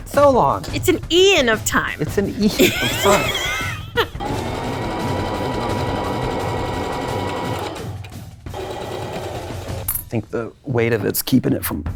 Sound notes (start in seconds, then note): 2.5 laughing; 4.0 sewing machine whirring